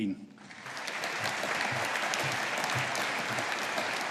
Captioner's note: audience applauding